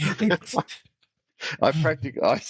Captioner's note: laughing